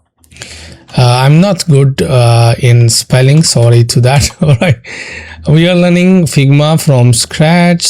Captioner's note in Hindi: हंसी